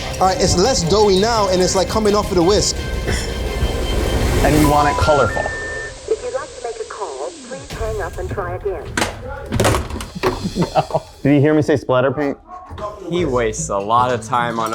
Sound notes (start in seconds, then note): 3.2 laughs; 4.6 phone beeping; 9.6 phone clinking